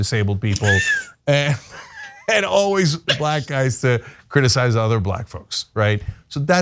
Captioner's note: laugh